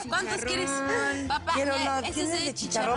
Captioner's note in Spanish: Hablan al unísono